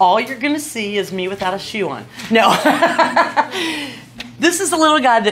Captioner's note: laughs